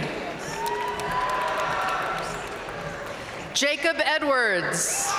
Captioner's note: audience cheering and applauding